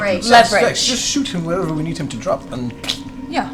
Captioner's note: pfft